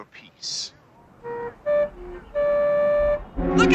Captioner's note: horn honking